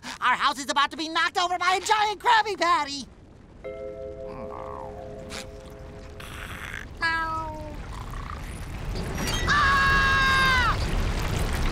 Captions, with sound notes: Our house is about to be knocked over by a giant Krabby Patty! [groaning] [snoring] [screaming]